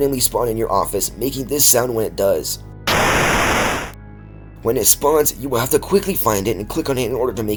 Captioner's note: static